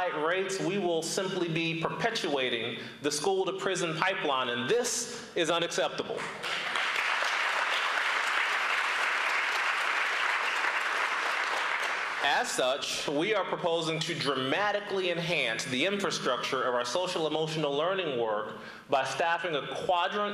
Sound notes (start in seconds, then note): 13.5 applause